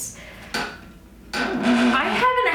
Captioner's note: chair squeaks